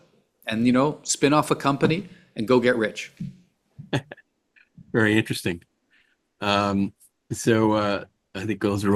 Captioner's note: laughs